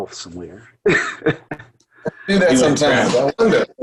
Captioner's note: laughs